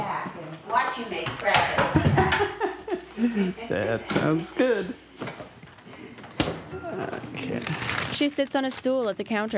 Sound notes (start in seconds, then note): 1.8 laughs